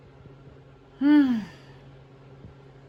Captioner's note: sighs